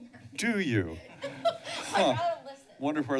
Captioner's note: laughs